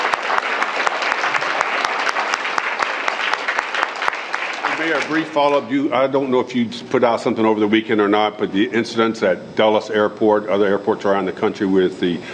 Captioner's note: cheers and applause